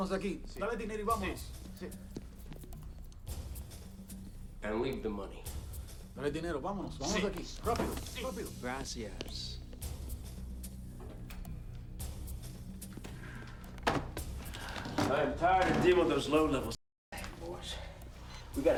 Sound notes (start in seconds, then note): 0.3 gangsters speaking in Spanish; 6.4 gangsters speaking in Spanish; 13.7 bag thuds